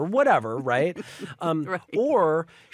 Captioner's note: laughs